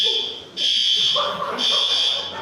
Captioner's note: smoke alarm